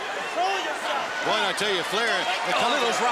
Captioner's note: crowd chatter